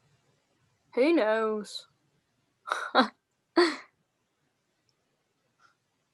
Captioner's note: laughing